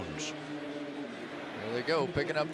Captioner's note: pa announcement